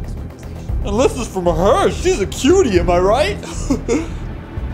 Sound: laugh

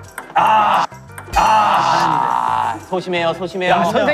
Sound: sighs

